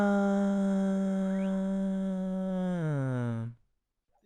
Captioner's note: groaning